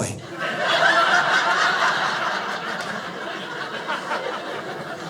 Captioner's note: audience laughing